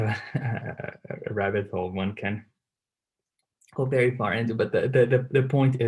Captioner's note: laugh